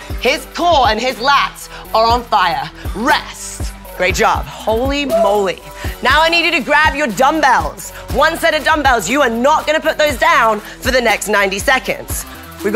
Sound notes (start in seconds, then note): 5.0 wooing